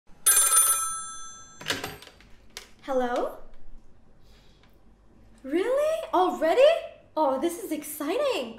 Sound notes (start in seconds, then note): 0.2 <i>Telephone rings</i>